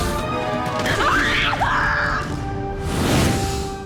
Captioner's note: screaming